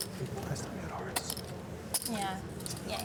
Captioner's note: whispering